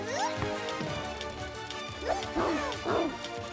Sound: barking

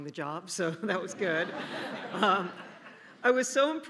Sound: laughing

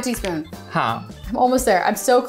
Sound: speaking in Hindi

